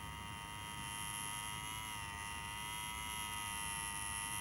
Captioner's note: continuous buzzing